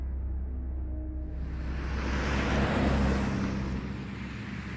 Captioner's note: car driving